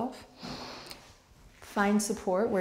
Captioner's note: breathing